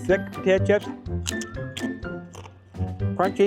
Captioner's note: crunching and mouth noises, right up in your face